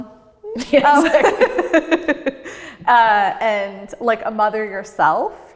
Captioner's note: laughs